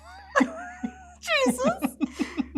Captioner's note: both laugh